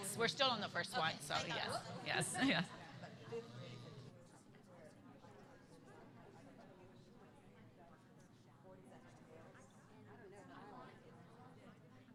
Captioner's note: laughter